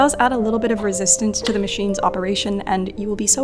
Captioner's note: winder clicks